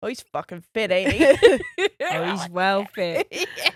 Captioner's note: both laughs